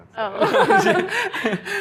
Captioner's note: laughing